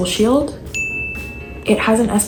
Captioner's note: chime